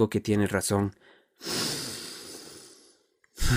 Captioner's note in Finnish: hengittää sisään; hengittää ulos raskaasti